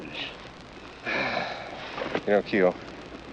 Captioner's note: sighs